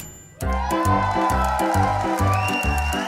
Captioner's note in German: Jubel; Schelmische Musik